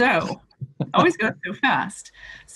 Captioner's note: laughs